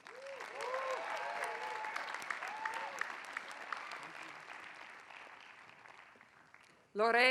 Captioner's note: applause